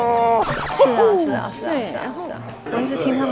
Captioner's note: chatting